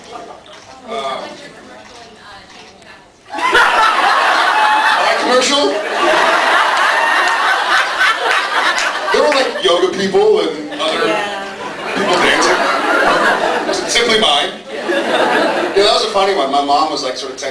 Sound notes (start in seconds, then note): 3.3 laughs; 10.7 laughs